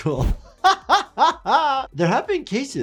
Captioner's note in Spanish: reír